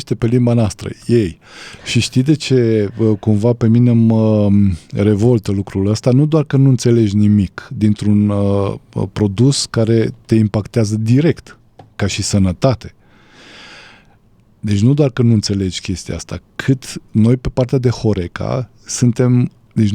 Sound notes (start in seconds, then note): 13.6 sigh